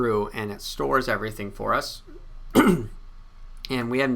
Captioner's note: clears throat